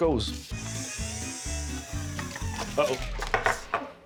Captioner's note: whirring sound starts, stops abruptly